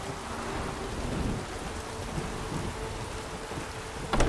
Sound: thunder

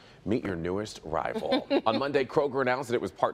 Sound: laughter

